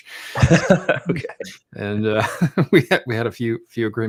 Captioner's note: laughing